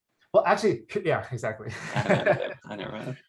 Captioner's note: laughs